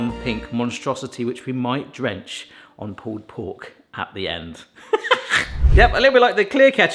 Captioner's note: laughs